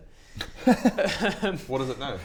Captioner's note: unguilty giggles